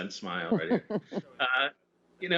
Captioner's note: laughter